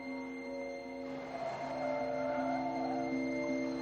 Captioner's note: tires screeching